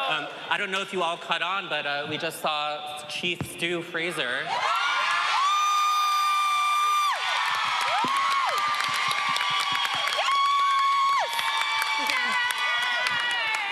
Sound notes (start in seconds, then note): 4.4 audience cheering